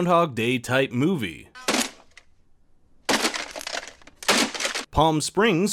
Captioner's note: smashes alarm clock